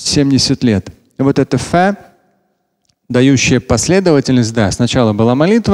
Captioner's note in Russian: говорит на арабском